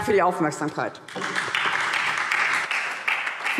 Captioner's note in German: Beifall SPD